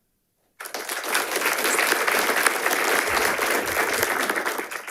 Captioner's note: audience applauding